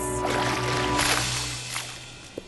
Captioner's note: splash